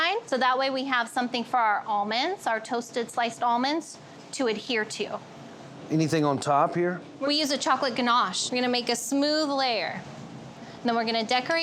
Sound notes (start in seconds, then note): none